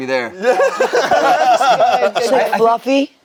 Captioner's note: group laughs